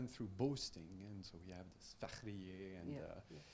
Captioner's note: speaking in Farsi